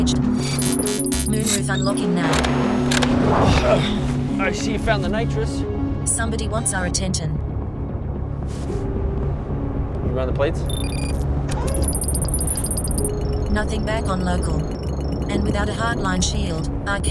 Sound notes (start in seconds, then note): 0.5 beeping; 3.3 grunting; 11.6 electronic bleeping